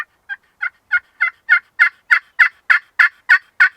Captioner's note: turkey calls